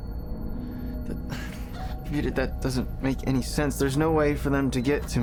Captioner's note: sighs